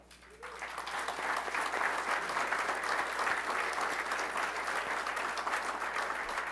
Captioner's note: audience applauding